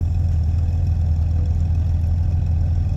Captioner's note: bike rumbling